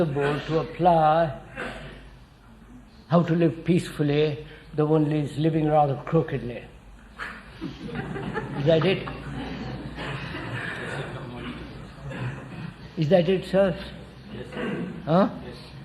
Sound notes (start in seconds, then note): 7.2 laughter